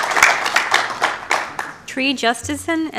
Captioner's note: applause